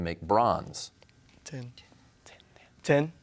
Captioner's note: whispers